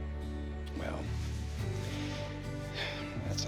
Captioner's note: sighs